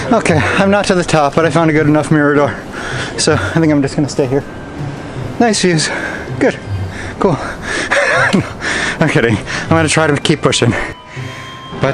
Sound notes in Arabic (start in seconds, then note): 8.4 يضحك